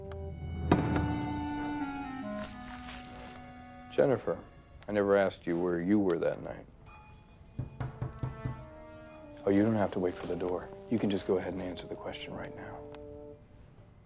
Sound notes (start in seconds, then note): 0.0 dramatic music; 7.5 knocking